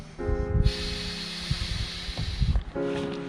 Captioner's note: air blowing